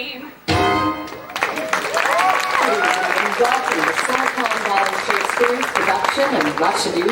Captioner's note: audience applause